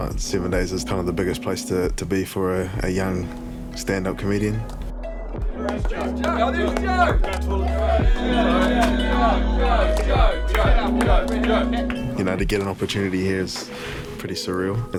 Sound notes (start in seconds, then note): 7.7 group chatters